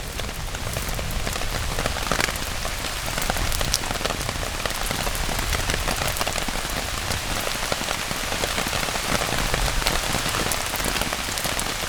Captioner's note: heavier rain